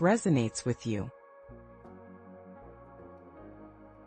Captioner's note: pause